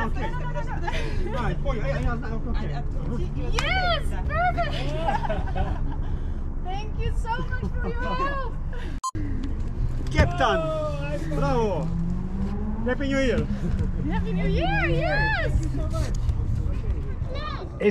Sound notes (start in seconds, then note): 0.7 laughs; 4.6 laughing